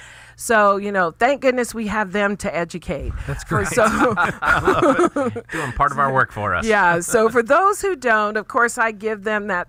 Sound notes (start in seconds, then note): 3.4 laughing